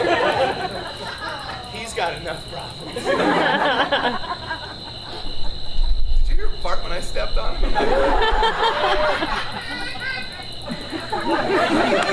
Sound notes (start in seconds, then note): 0.0 audience laughs; 2.8 audience laughs; 7.6 audience laughs